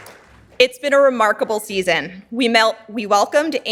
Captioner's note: audience applauding